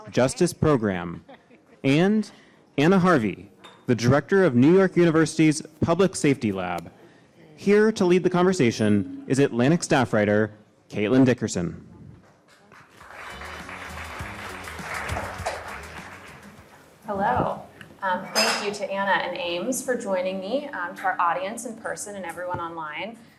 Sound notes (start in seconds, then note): 12.3 audience clapping; 13.0 upbeat music